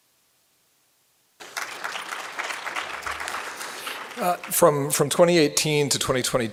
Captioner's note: applause